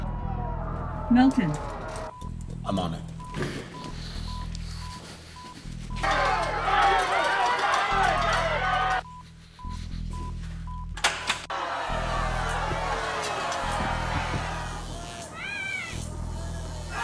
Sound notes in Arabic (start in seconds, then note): 6.0 يستمر الصراخ; 13.3 أزيز كهربائي